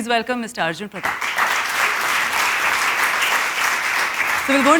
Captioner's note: applause